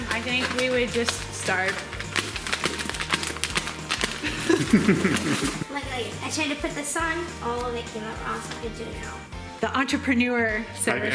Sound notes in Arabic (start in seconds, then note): 4.2 يضحك